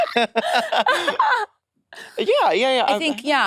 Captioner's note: participants laughing